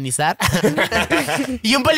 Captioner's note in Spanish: Risas